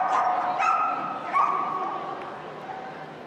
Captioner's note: dog barking